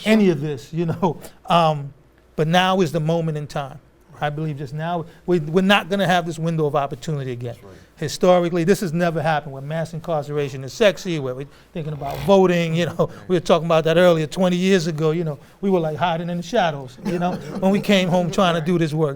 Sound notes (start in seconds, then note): 17.0 laughter